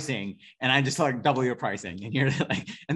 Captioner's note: laughing